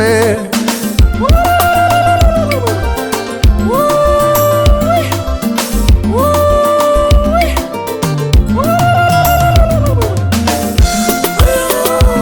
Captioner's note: ululations & Mourning